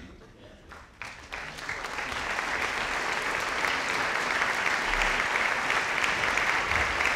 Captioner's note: audience applauding